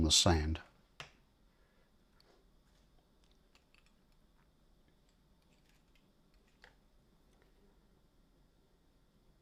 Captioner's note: silence